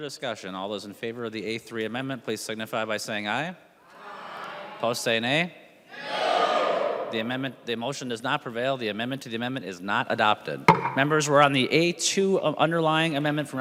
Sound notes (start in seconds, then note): 9.4 chorus of ayes